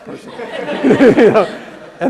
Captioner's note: laugh